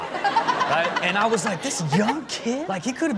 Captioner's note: Chanel and audience laugh